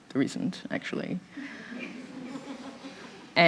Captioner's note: laughter